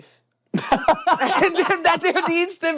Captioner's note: laughs